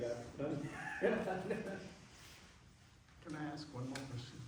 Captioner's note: laughs